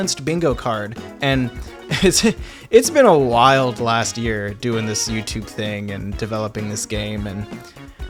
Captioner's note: laughs